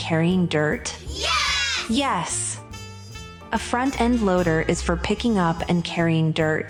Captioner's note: group of children shout “Yes”